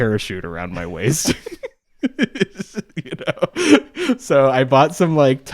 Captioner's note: both laughing